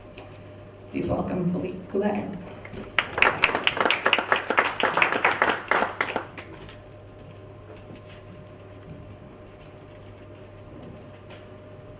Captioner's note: clapping